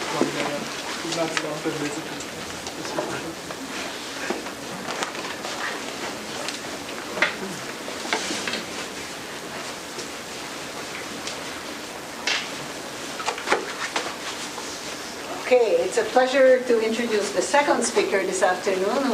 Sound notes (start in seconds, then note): 3.5 background chatter